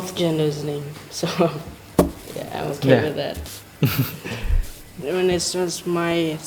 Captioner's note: laughs